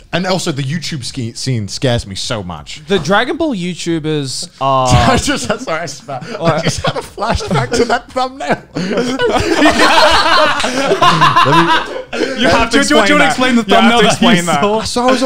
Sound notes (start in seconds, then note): 5.3 laughs; 8.5 men laughing